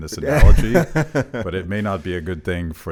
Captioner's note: laughs